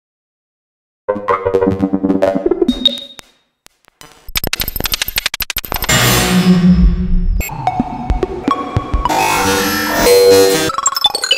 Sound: sound of glitch

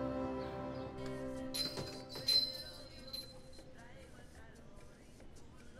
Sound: door chimes clinking

